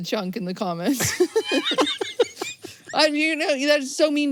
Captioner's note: both laugh